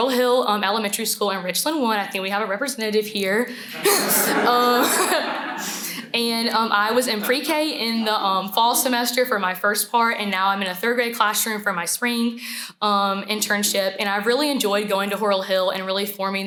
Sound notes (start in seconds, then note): 3.7 laughter